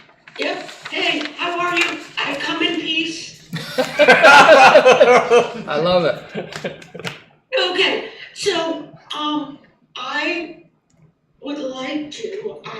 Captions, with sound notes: Yeah, hey, how are you? I come in peace. (laughing) I love it. Okay, so I would like to,